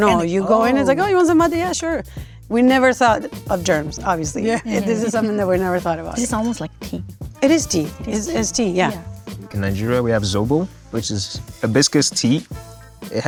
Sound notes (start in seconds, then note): 4.4 laughing